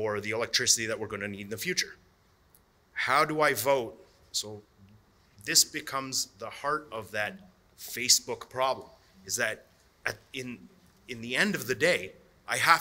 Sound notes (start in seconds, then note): none